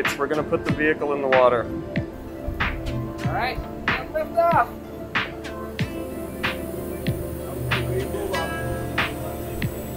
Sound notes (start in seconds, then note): 2.2 crew members talk; 2.2 intriguing music